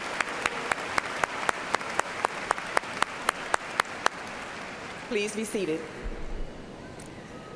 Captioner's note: applause